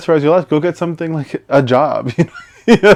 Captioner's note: laughs